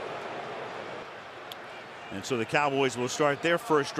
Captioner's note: booing